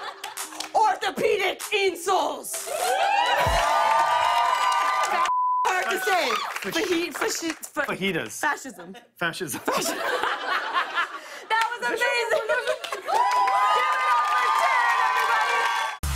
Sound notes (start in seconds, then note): 2.5 cheers and applause; 9.5 laughter; 12.6 cheers and applause